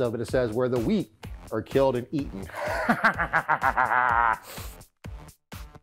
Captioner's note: evil laughs; upbeat music